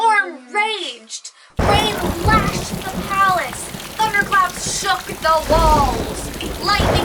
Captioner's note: thunder